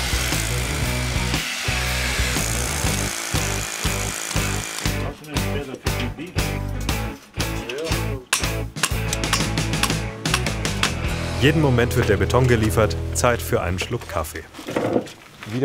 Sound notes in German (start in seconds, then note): 5.0 Leise Gesprächsfetzen; 8.1 Hämmern